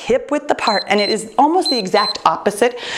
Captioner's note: timer beeps